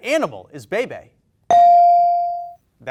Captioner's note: bell dings